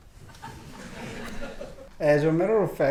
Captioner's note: audience laughing